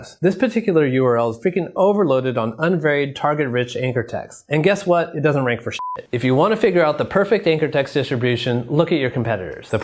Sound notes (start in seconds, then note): 5.7 beep; 9.6 bells tinkling